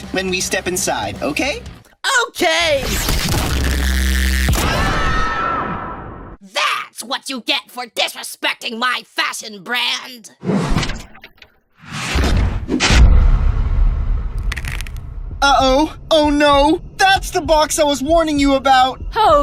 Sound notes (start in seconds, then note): 3.9 very loud boom; 10.3 zooming sound; 10.6 door opening sound; 11.7 zooming sound; 12.0 crashing sound; 12.7 loud beat